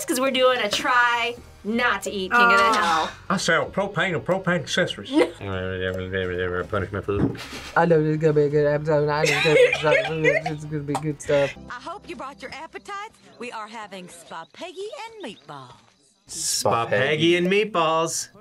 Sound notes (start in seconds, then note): 5.0 chuckles; 5.4 speaks gibberish; 7.7 as Boomhauer; 9.3 speaks gibberish